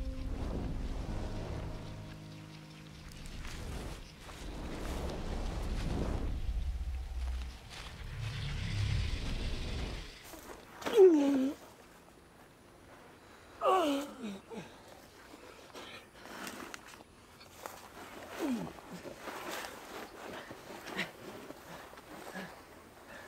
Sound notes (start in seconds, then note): 11.0 groaning